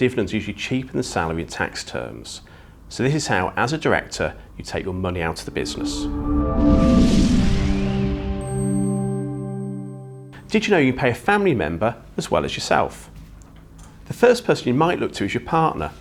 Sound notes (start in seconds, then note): 5.4 graphics whooshing; 5.4 gentle music